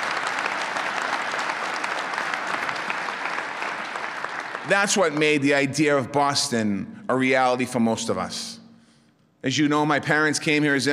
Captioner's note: applause